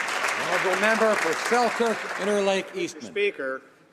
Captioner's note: applause